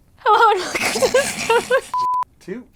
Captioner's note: sputtering and giggling